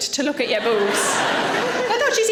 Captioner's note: audience laughing